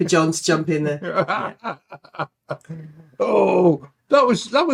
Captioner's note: laughing